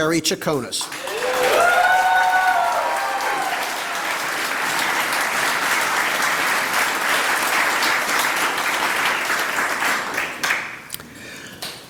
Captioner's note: applause